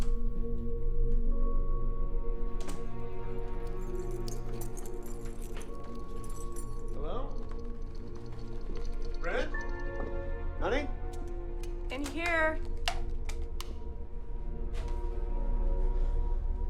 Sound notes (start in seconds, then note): 0.1 door latch clicks; 3.3 keys jangling; 5.7 gentle ominous music; 13.3 gentle ominous music